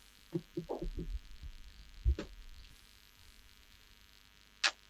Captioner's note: electric buzzing